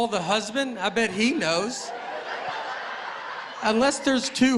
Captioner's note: laughter